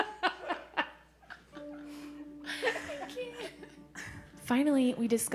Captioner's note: laughing